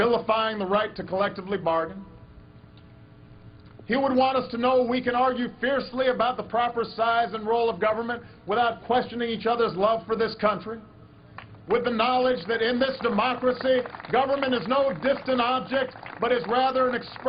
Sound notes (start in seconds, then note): 12.2 applause